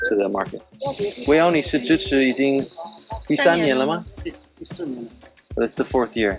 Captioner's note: speaking in Mandarin